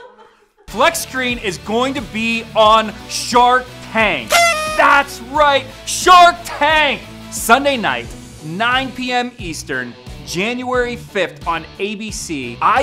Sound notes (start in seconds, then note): 0.1 laughing; 4.2 party horns honking